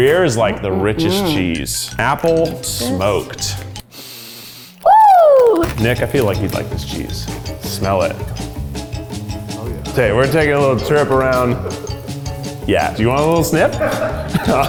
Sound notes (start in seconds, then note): 3.9 sniffs; 13.6 man laughs